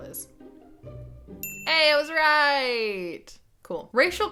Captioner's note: bell dings